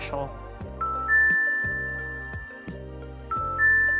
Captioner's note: beeping